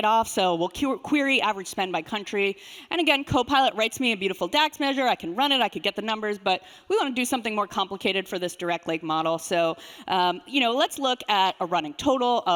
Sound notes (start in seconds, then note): none